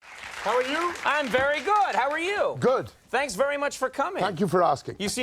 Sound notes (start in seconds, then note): 0.0 audience applauding